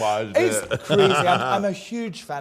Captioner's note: laughs